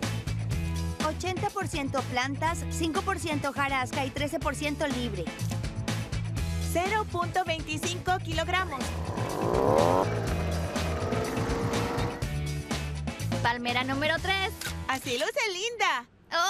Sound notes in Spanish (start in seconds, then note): 8.4 rugido de motor